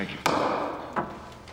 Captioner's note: gavel bangs